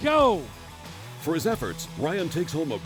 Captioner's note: voiceover